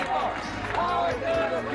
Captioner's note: crowd Clapping; crowd chanting